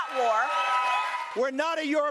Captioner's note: cheering and applause